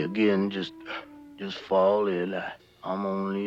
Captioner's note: yawns